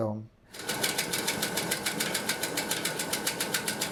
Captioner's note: film reel spins